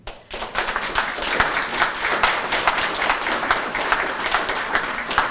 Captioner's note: audience applauding